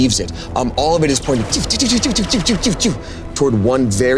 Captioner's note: imitating wisps firing